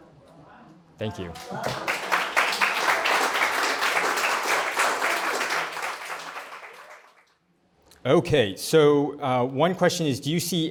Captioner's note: applause